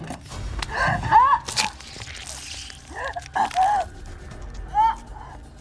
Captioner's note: dramatic music; Marie gasping